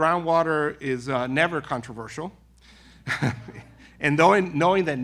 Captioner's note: laughing